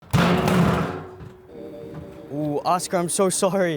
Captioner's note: trash can banging